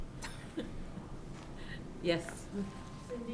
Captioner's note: woman chuckles